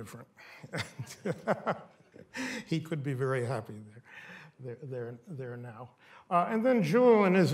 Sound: laughs

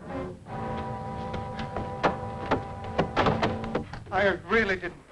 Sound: tense music; footsteps thudding

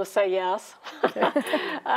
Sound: both chuckling

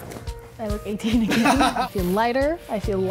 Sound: both laugh

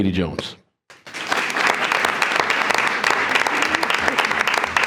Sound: attendees applauding

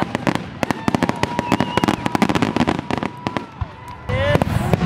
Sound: exploding fireworks

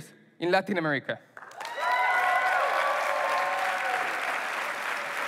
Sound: applause

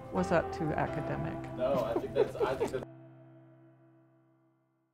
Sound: laughs

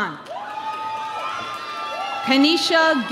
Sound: audience cheering

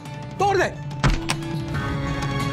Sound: breaking lock

